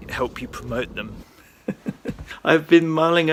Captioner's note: laughs